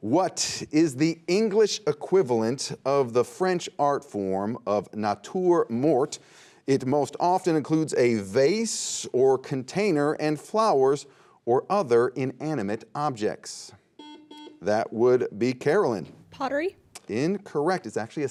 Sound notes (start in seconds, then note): 14.0 buzzer beeping